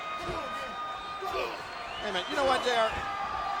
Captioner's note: Triple H and Test grunting